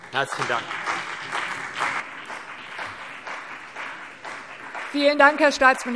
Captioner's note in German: Beifall CDU und BÜNDNIS 90/DIE GRÜNEN